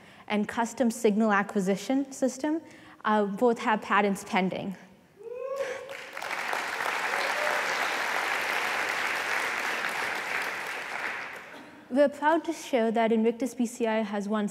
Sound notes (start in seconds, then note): 5.6 applause